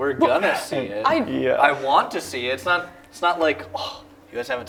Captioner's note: sigh